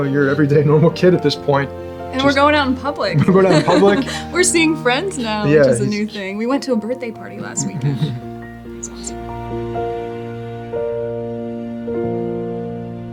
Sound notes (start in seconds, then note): 7.4 laughs; 10.0 gentle piano music